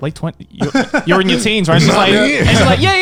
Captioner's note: laughs